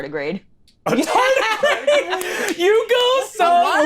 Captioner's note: all laughing